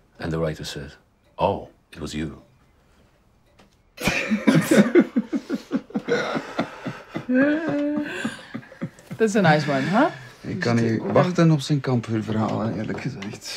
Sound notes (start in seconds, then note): 4.0 laughter